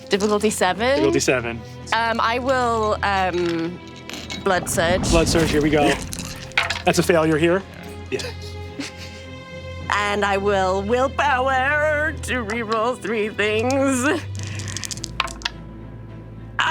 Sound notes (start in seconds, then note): 7.8 quietly; 15.5 dark dramatic music